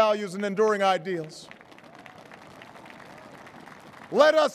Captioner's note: applause